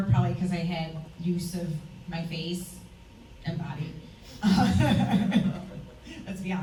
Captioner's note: laughs